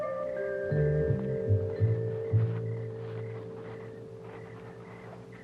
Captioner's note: crickets chirping